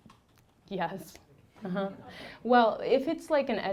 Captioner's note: laughing